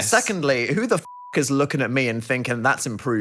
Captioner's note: beep